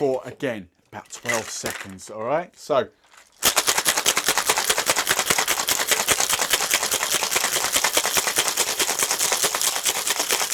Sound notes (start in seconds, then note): 3.2 ice clinking loudly